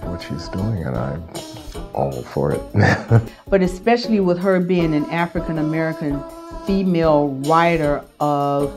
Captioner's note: laughs